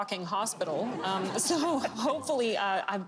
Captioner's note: laughter